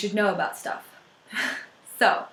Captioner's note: laughs